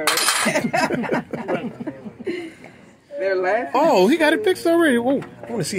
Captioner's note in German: Lachen